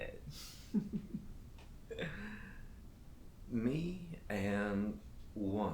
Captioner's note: Captain Brookes giggles